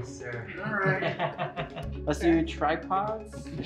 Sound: laughs

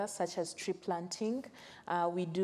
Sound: none

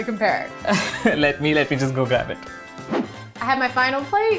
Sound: laughs

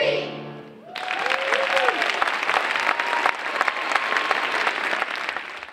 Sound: audience applauding

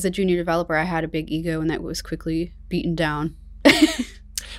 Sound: laughs

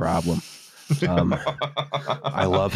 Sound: laughs

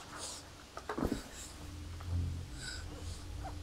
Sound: Nova whimpering

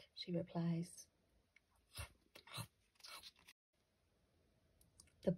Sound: crunch crunch crunch

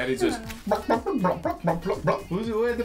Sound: Lizzy clucking; dad clucking

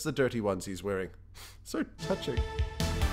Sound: sniff

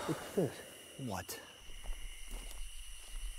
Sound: big sigh

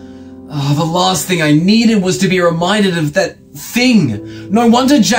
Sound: sigh

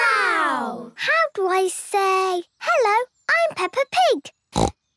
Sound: snorting

